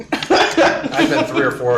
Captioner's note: laughing